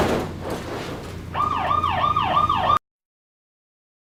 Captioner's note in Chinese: 警報聲